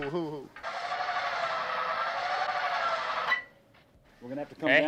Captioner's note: metal grinding